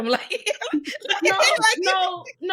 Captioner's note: laughing